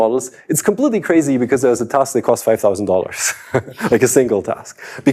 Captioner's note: laughs